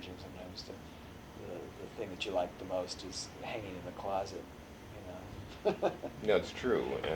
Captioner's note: laughs